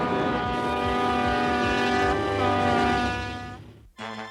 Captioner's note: horn blasting